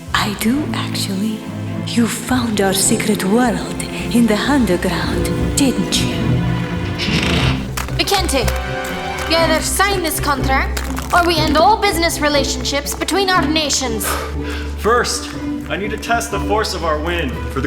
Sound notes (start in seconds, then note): 6.6 door creaks